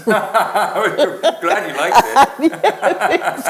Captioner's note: both laughs